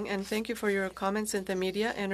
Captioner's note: speaking French